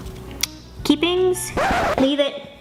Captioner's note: record scratch sound